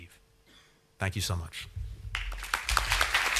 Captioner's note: applause